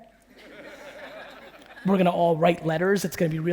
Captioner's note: audience laughing